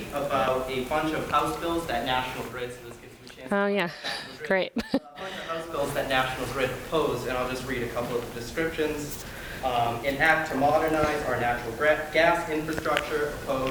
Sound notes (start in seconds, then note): 3.8 laughs